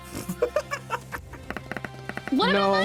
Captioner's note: laughing